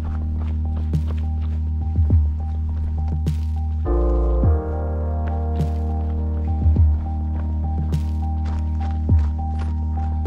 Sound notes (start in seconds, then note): 6.2 footsteps pounding